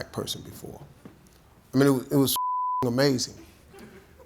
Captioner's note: beeps